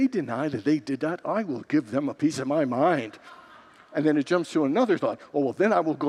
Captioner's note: congregants laugh